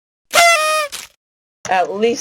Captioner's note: SFX: Party Horn